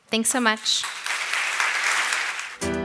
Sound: applause

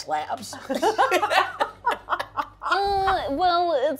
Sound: participants laughing

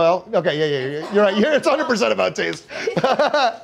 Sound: chuckles

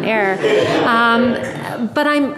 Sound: audience laughing

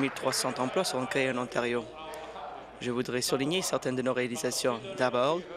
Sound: applause

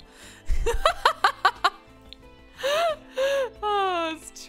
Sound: laughs

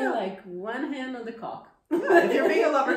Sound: laughs

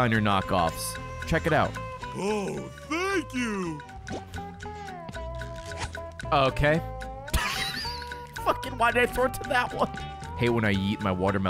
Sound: laughs

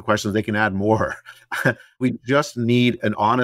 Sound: laugh

